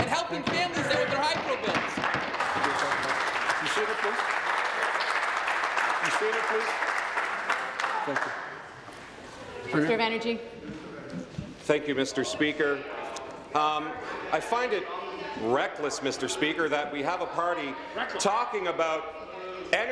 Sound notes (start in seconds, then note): 4.8 applause